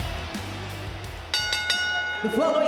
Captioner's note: bell rings